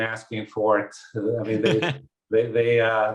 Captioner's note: laughs